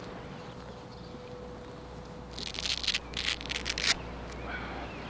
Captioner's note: ripping sound